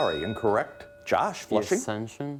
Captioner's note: bell dinging